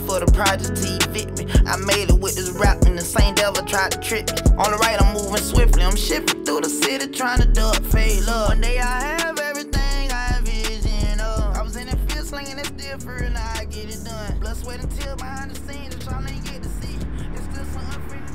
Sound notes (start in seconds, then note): 15.4 ominous sound